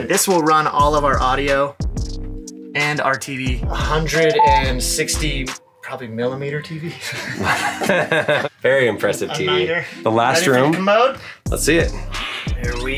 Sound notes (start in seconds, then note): 7.0 both laughing